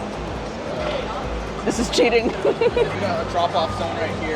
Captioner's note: laughs